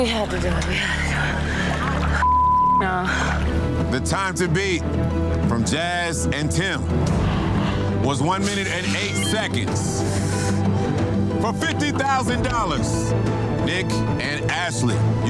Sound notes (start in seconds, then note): 0.0 both gasping; 0.0 dramatic music; 10.3 digital beeping; 10.3 dramatic music